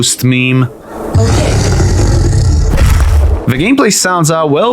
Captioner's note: infected giant roar